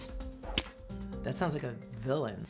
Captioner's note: graphic splats